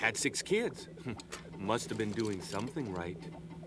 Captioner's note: chuckles